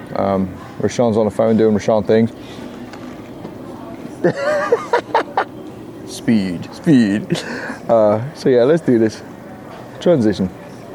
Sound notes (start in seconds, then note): 4.2 laughs